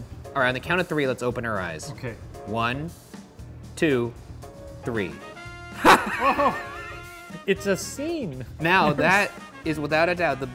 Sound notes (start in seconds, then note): 5.8 laughing